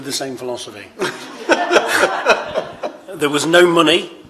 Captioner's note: laughter